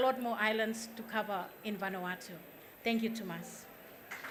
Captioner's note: speaking foreign language; applause